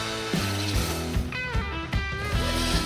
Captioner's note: bearing swoosh